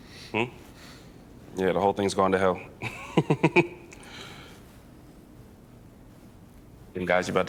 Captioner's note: chuckles